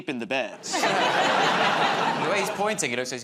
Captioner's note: laughter